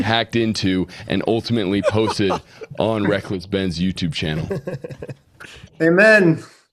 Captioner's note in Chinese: 笑声